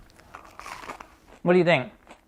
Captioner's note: bread crunching